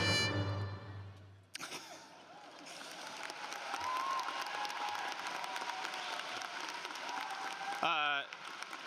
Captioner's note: laughter; applause